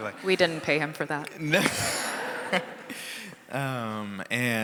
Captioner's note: laughing